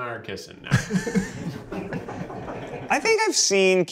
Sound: laughing

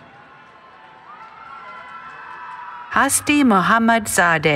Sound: cheering

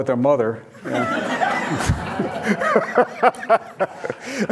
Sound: audience laughing

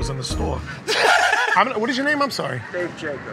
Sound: laughter

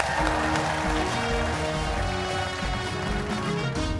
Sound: cheers and applause

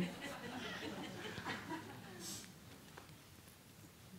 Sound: laughter

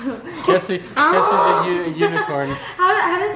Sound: braying

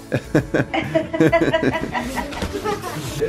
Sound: laughter

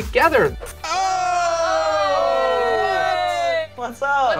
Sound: yelling

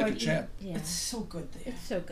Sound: voiceover

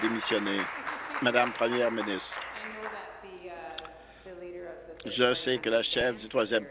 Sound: applause

